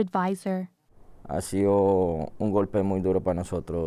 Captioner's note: speaking Spanish